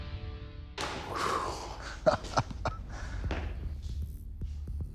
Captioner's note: sighs